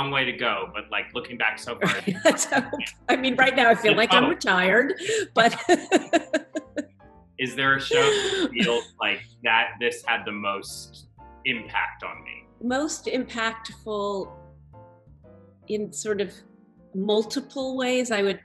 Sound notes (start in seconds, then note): 6.5 laughter